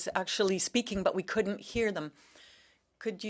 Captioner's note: speaking French